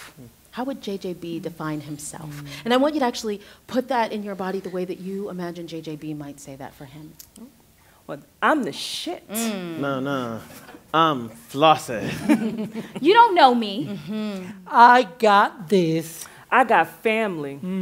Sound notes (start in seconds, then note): 12.0 laughter